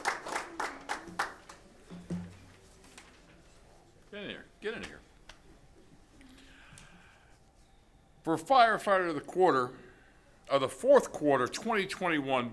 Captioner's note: applause